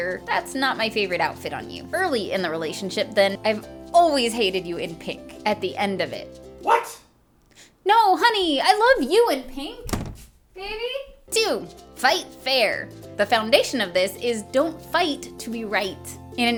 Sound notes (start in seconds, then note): 9.8 door slam